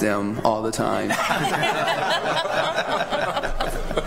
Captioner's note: laughter